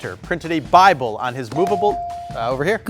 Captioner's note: buzzer dings